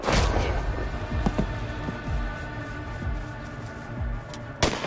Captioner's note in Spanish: Disparos